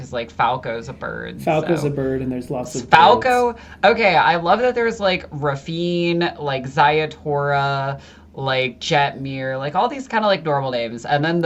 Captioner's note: chuckles